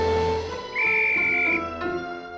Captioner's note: whistle blowing